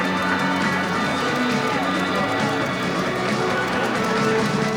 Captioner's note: audience cheering; audience applauding